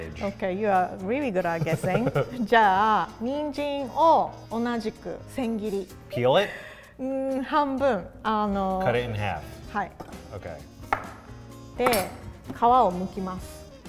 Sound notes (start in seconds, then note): 1.4 chuckles; 2.6 speaks in foreign language; 7.2 speaks in foreign language; 11.9 speaks in foreign language